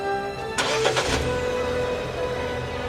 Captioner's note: engine turns on